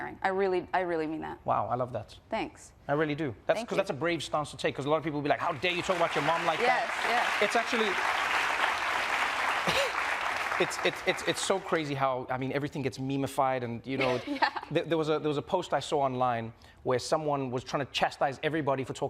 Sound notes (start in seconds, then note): 5.3 group applauding; 9.6 coughs